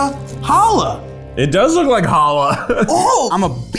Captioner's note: laughs